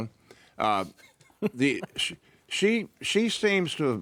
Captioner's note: chuckling